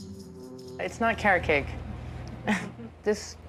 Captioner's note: chuckles